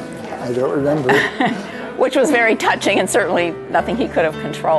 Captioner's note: laughs